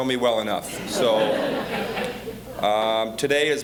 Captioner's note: audience laughing